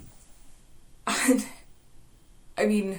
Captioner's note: sound of Exasperation